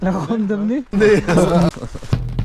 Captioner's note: laughs